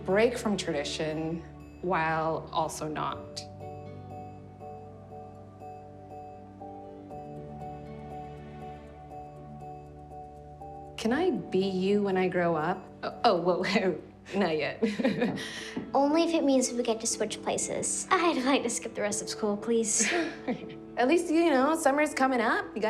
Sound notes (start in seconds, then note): 3.9 soft music; 14.9 chuckling